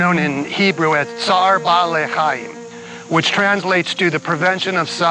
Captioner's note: speaks Hebrew